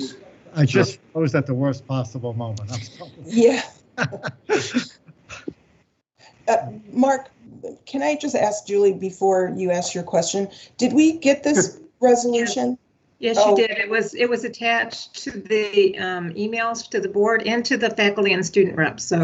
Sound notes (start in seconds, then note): 5.5 laughter